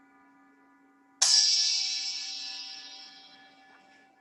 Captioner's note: bell rings